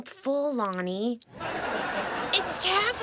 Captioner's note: audience laughing